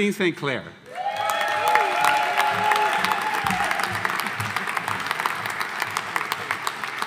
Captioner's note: audience applauding; audience cheering